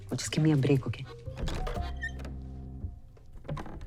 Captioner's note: door opens